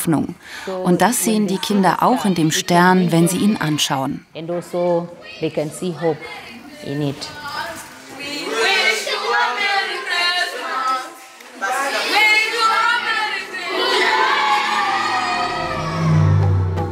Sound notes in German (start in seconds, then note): 11.9 Jubel